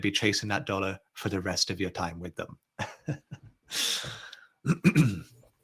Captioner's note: chuckles